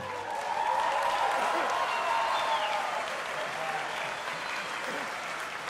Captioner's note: audience applauding and cheering